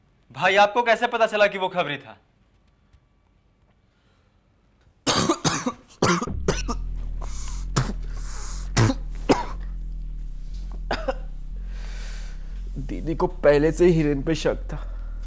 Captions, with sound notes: Brother, how did you find out that he's a mole? (Coughs) (Spits) Didi had already been suspecting Hiren.